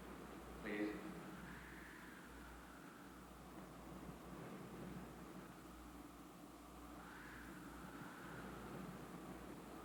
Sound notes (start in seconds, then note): 4.0 wind howling outside